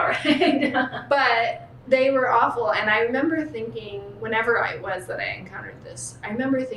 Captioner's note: laughter